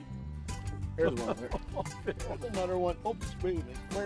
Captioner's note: laughing; voiceover